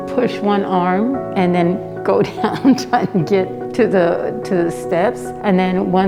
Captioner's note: laughs